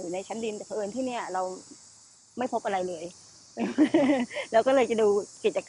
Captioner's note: laugh